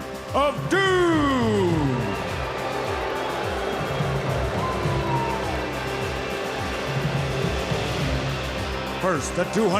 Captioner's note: crowd cheering